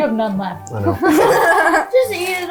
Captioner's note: laughing